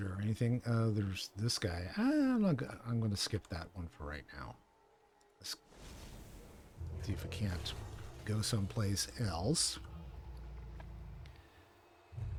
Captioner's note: gunshots